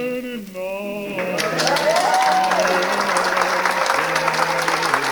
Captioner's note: cheers and applause